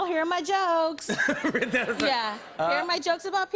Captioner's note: laughs